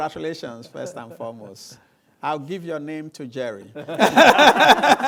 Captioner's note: laughter